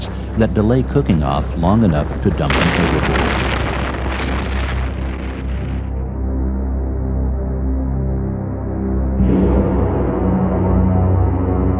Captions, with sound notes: that delay cooking off long enough to dump them overboard. (explosions blasting) (ominous music)